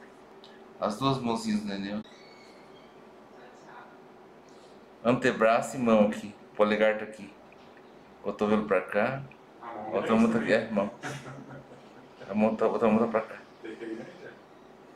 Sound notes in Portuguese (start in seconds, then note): 9.7 risos